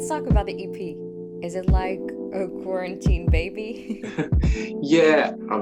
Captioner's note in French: rire